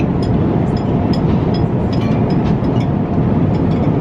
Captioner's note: cutlery clanking